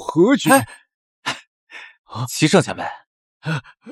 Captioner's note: sighs